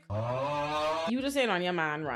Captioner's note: audience groans